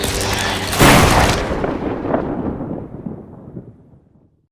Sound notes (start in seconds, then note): 0.1 lighting Strike